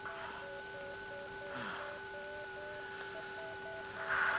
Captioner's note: breathing heavily